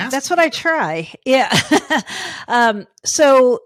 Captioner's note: laughing